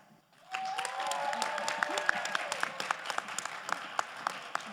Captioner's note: crowd applauding